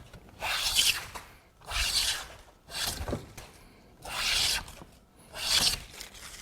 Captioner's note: planing sound